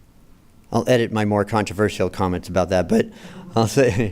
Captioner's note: laughter